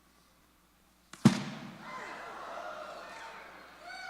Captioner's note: explosion and then applause